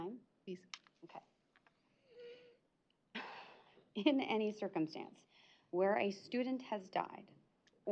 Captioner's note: sharp breathing